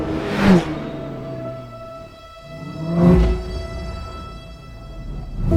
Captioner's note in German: Motorgeräusche und epische Musik gehen weiter